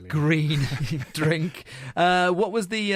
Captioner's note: laughs